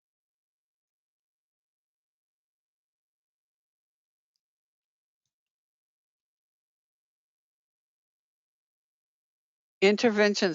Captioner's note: 9 seconds pause